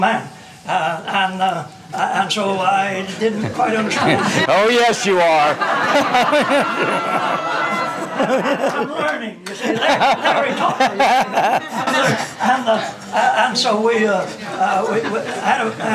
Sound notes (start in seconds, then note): 5.4 laughter